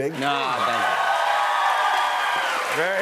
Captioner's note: cheers and applause